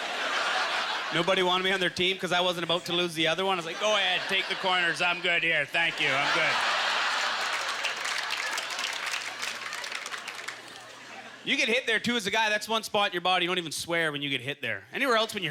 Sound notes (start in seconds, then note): 7.4 audience laughter; 7.9 applause